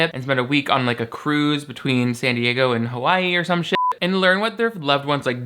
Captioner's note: beep